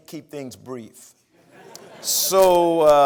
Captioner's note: laughter